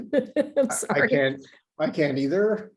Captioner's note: laughs